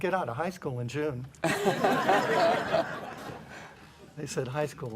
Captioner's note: laughter